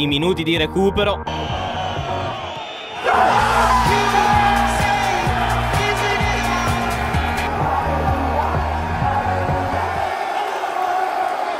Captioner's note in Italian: Applauso